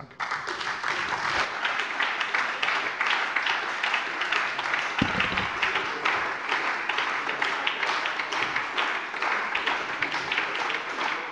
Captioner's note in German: Anhaltender Beifall bei der SPD und bei Abgeordneten der LINKEN